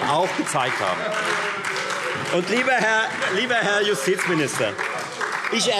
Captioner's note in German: Beifall Freie Demokraten und SPD - Zurufe CDU und BÜNDNIS 90/DIE GRÜNEN